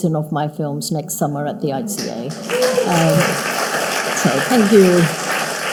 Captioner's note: audience cheering